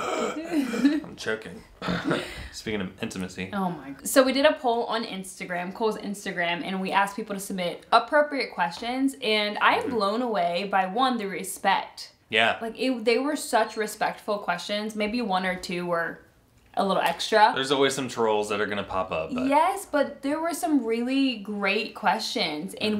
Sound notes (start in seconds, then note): 0.0 gasping together; 1.8 clears throat